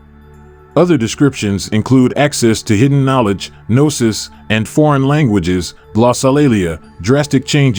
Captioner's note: glossolalia